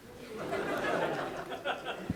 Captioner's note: laughter